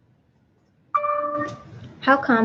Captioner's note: computer dings